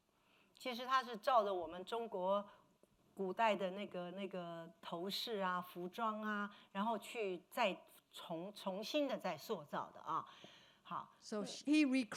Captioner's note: speaking Mandarin